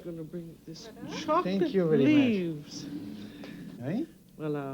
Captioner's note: speaking french